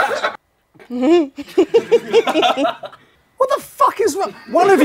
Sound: people laughing; lady laughing

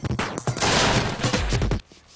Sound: slap

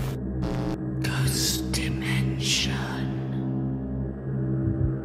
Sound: ghostly Voice

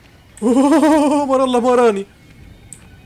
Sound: cringy voice

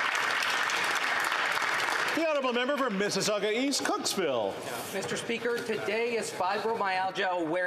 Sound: some Applause

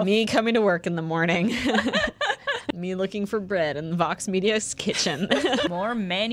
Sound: laughter

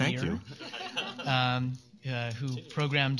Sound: laughter

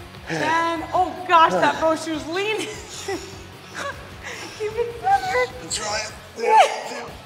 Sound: laugh

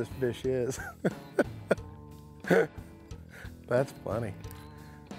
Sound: chuckles

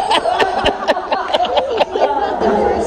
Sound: Akio chuckles

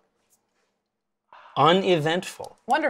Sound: sighs in relief

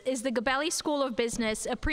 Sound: none

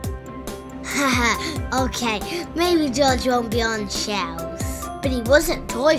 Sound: laughs

